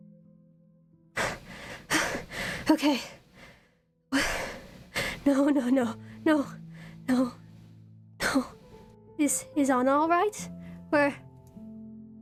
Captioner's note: panting; gasps